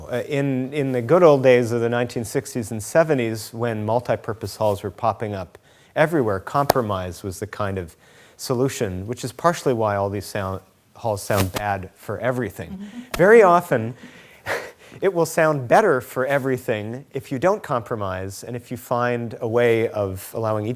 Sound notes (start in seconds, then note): 12.6 chuckles; 12.7 laughing